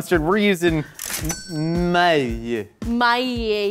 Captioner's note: cash register dings